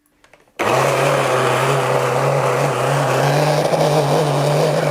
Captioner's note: loud grinding